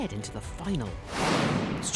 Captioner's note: booming whoosh